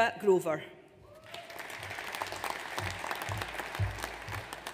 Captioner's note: audience applauds